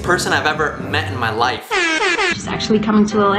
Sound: airhorn sound

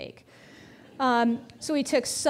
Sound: audience chuckling

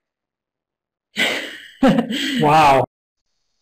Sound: laughs

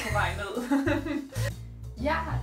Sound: both laugh

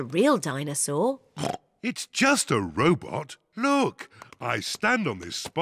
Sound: oinks

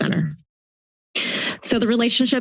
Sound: inhales

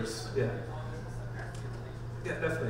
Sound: off-mike talking

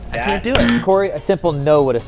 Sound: buzzer

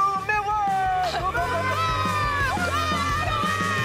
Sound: crowd boos

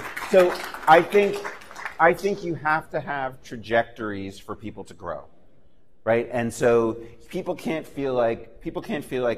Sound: laughter and applause

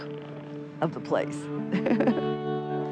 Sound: laughs

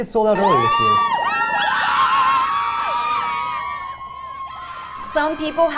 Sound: cheering

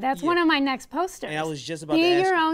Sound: voiceover

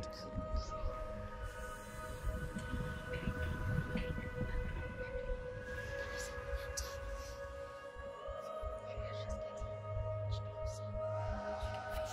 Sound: game narration: cryptic whispering

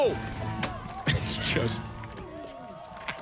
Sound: laughing

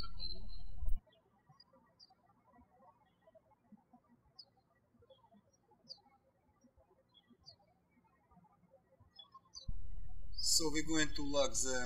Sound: birds chirping

